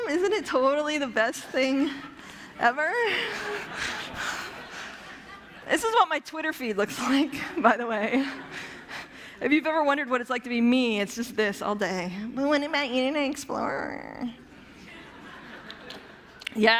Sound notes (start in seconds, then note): 2.8 laughter; 12.1 whiny voice; 14.7 laughter